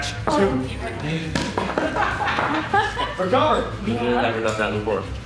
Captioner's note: wood thudding